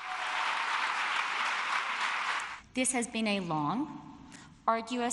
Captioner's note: applause